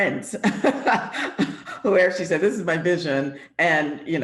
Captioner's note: laughs